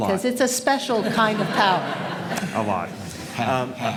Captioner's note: audience laughs